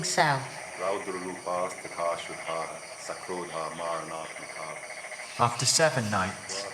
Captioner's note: speaking in a foreign language